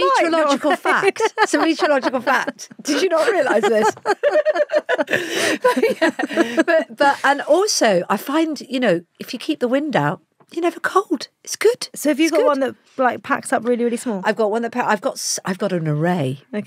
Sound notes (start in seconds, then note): 0.6 laughs; 4.2 both laughing